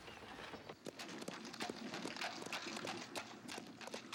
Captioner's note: hooves clopping